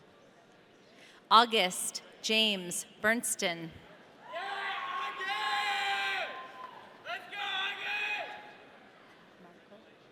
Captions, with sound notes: August James Bernsten. (audience cheering) - Yeah, August! Let's go August!